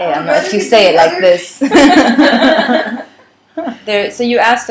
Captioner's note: laughter